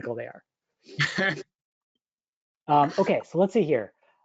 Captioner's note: laughs